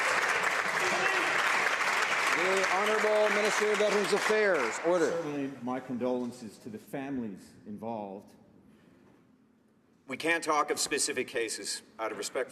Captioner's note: some Applause